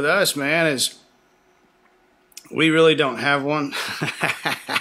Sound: laughs

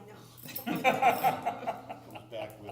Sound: laughter

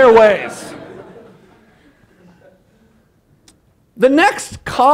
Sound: laughter

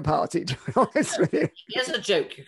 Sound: laughs

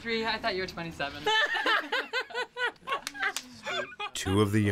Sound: women laughing

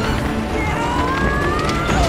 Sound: screaming

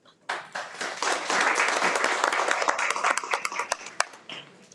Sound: everyone applauds

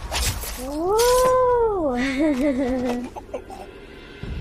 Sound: laughs

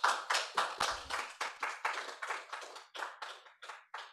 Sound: applause

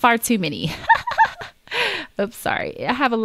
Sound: laughs

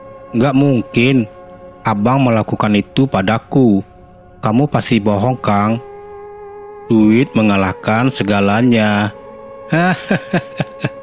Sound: laughs

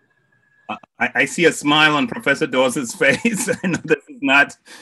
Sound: laughs

